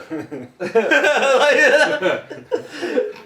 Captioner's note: laughing